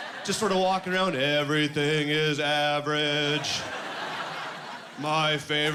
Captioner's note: Robotic voice